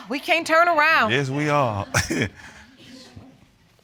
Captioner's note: chuckles